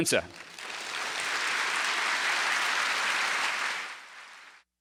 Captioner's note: audience applause